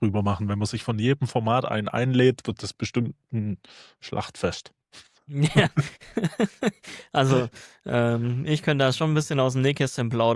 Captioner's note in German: gelächter